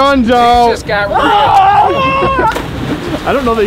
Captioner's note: yelling; laughing